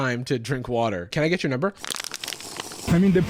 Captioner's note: slurping sound